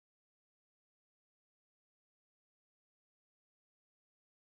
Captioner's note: none